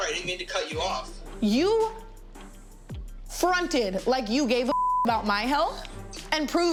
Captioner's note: beep